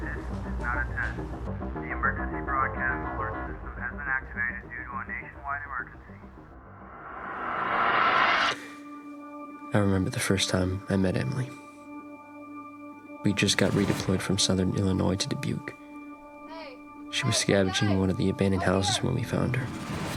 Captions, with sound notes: [radio broadcasting] This is not a test [radio broadcasting] The Emergency Broadcast Alert System [radio broadcasting] has been activated due to a [radio broadcasting] nationwide emergency. [Riser] I remember the first time I met Emily. We just got redeployed from southern Illinois to Dubuque. [Emily yelling] Hey, hey guys! Up here! She was scavenging in one of the abandoned houses when we found her.